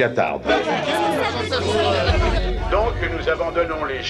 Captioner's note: reporters clamoring